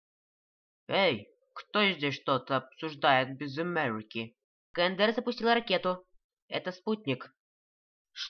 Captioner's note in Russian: Американским акцентом